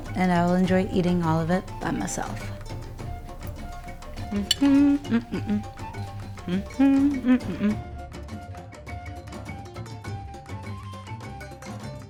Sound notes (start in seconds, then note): 3.3 upbeat music; 4.9 humming